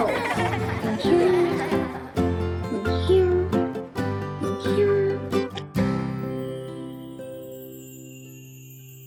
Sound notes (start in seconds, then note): 0.0 children laughing; 5.8 magical chiming